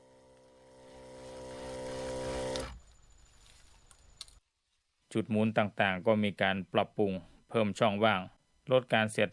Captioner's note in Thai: เสียงเครื่อง